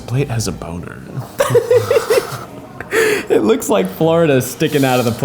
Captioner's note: laughs